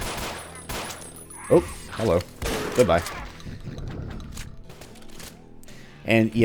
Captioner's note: gunfight continues